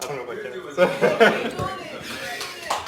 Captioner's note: laughing